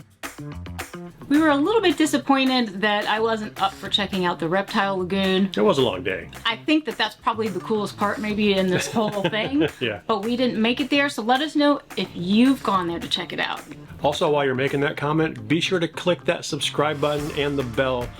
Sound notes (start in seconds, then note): 8.5 laughs